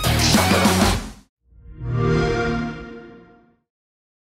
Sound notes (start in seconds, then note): 1.5 xbox sound